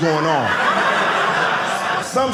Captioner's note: audience laughing